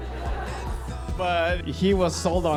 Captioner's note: laughter